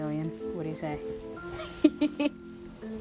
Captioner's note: laugh